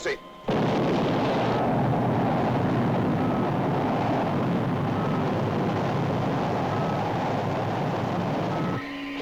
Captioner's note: engine firing; mechanical sounds